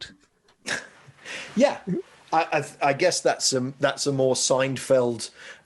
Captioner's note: laughing